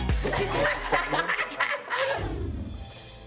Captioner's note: all laughing